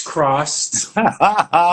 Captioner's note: laughs